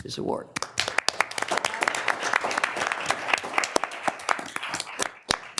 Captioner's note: audience applauding